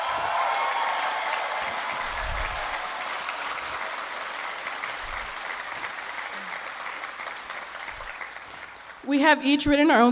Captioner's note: applause